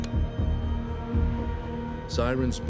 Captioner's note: warning siren begins